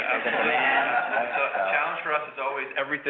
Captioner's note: audience laughs